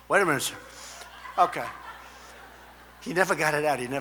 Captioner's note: laughter